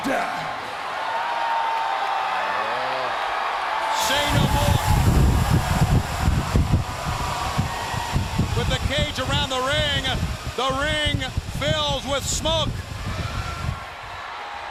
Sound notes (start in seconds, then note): 3.0 crowd cheering; 8.1 crowd cheering; 14.4 crowd cheering